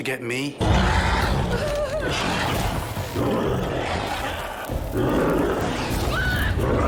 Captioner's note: snarling